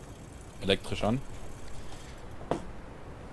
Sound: engine

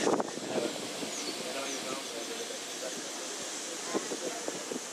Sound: wind blows

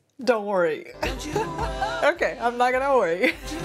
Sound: laughs

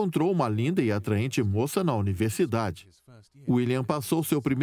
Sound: voiceover

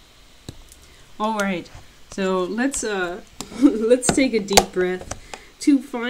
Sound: laughs

